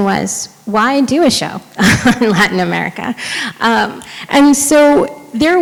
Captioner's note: chuckles